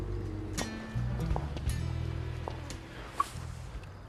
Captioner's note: footsteps